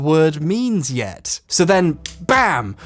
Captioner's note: hands smacking